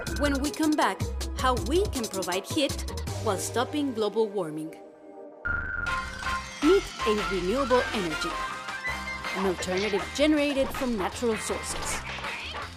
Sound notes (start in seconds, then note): 0.4 voiceover; 6.9 voiceover